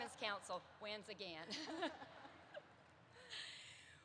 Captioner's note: laughter erupts